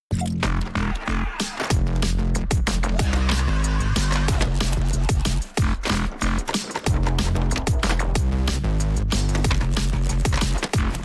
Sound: balance Board sounds

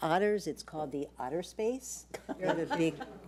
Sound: board laughs

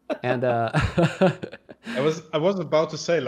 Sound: laughter

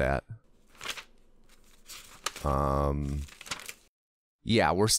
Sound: pages turning

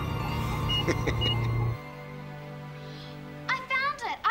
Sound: laughing

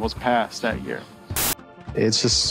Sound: static hissing

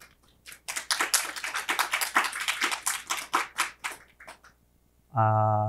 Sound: attendees applauding

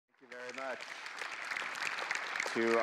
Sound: audience applauding

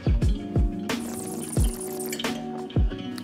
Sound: upbeat music; slurps

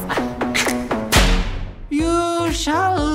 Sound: smack

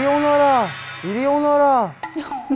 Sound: Conservative guy's shouting

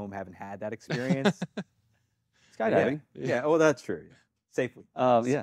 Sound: laughs

